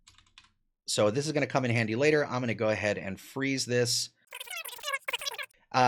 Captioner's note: sped-up audio